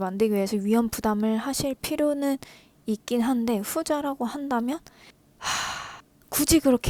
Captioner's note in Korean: 한숨